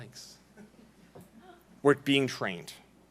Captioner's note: laughing